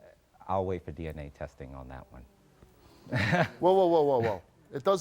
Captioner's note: chuckling